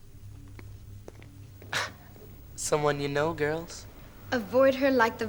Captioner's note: laughs